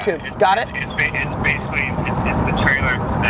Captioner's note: voiceover